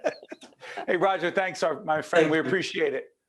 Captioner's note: laughing